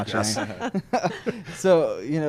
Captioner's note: laughs